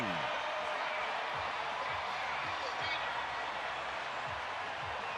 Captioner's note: crowd cheering